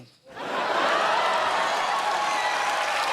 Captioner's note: cheers and applause